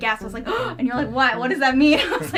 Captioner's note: gasps